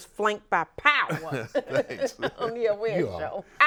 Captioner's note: hosts and guests laugh